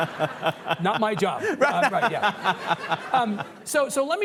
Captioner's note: laughing